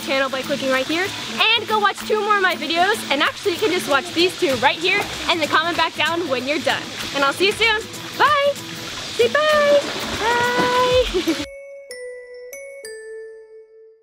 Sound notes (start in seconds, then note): 10.7 laughing; 11.4 bells ding